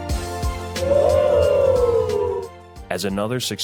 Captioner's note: group cheering